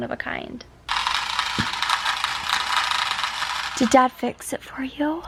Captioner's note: toy car buzzing